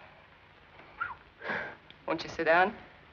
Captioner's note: whistles